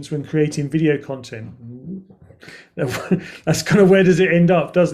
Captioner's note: chuckles